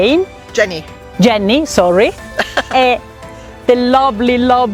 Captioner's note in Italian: risate